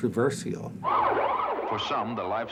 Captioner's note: police siren blares; voiceover